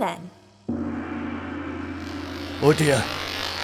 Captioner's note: distant gong and mechanical whirring